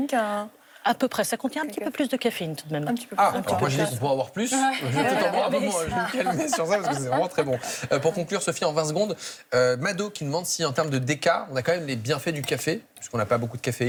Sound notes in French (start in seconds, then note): 4.7 rires